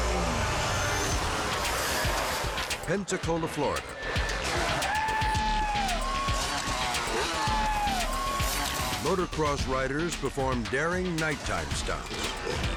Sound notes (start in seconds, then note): 4.2 engine revving; 4.2 people cheering